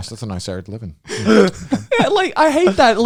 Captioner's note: laughing